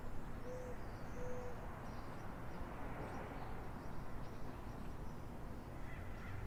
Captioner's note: distant traffic hums; birds chirp